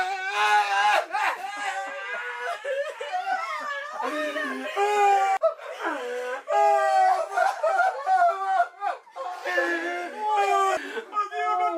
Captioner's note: crying and talking